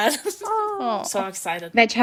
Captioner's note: awwing